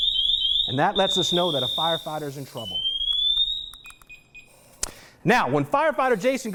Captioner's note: chirping; chirping continues; beep-beep, chirping stops